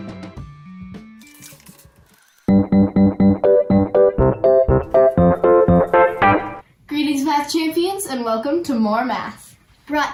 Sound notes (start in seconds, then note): 1.3 papers rustling; 2.5 bouncy upbeat music